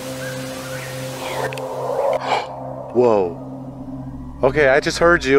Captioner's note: woman whisper